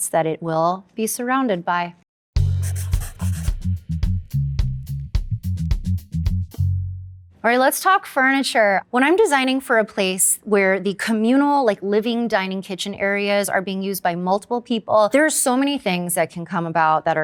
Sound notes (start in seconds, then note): 2.4 upbeat music; 2.6 pencil scribbling